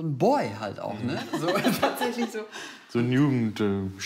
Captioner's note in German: Lachen